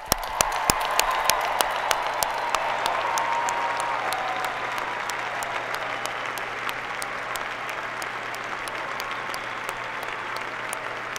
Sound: applause

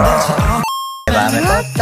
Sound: arcade game coin noise

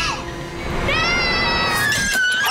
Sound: screaming

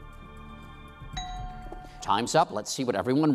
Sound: bell dings

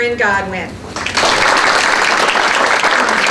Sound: applause

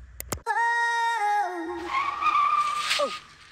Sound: tires screeching

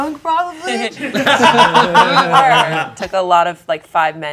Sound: group laughing

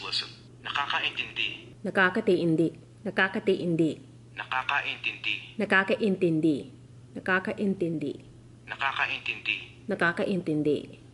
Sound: phone speaking Tagalog & repeats it back

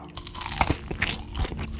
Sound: crunchy

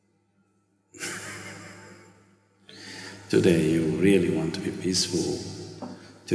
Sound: laughs

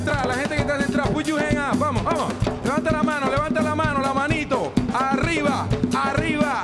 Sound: speaks in Spanish; speaks in Spanish

